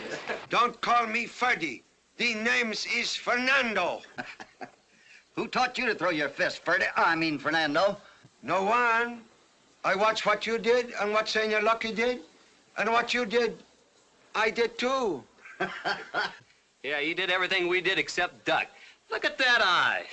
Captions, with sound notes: Don't call me Freddie, the name is Fernando! Who taught you to throw your fists, Fred... I mean Fernando? No one. I watch what you did and what Señor Lucky did, and what you did, I did too. [ HOPPY CHUCKLES ] Yeah, he did everything we did except duck, look at that eye.